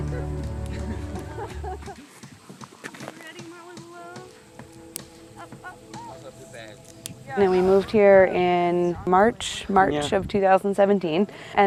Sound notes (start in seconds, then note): 0.6 people chuckling; 2.9 people chatting